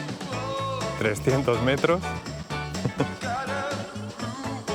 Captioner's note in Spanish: ríe